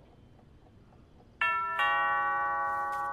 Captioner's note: Door bell ringing